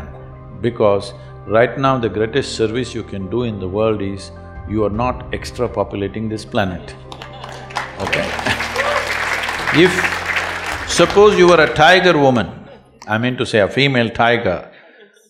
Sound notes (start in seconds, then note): 7.1 laughter/Applause